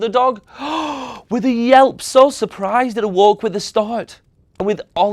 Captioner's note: gasps